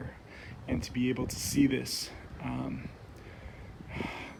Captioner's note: sigh